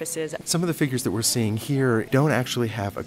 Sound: voiceover

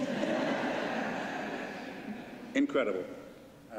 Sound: laughter

